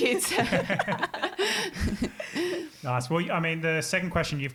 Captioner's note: all laughing